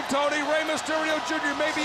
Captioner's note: crowd cheering